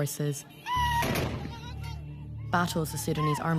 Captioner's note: cries